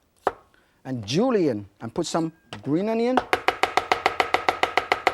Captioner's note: chopping food sounds